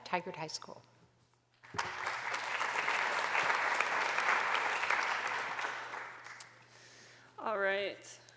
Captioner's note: applause